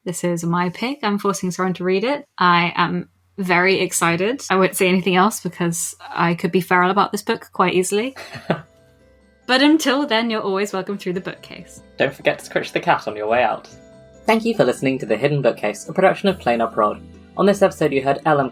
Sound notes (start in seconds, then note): 8.2 laughs; 13.7 theme music fades in